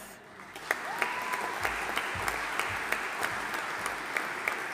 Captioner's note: audience applauding